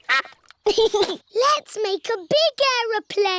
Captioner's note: quacking; giggles